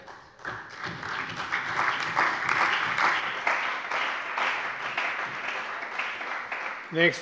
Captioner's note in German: Beifall bei der CDU und dem BÜNDNIS 90/DIE GRÜNEN